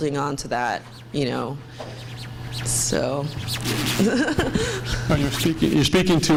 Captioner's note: laughter